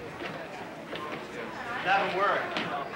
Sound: students chatter

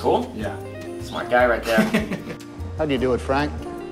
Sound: laughs

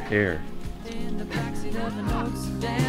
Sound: laughs

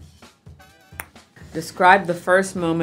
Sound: snaps tongue

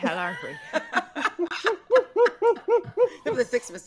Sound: group laughing

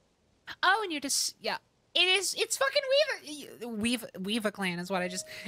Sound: stammering

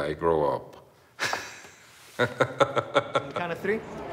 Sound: laughs

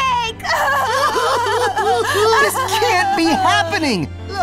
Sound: both wail

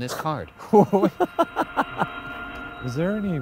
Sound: laughing

